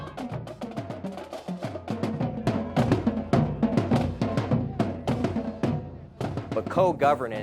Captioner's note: crowd